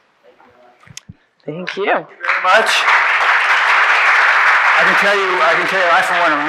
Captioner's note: audience applauding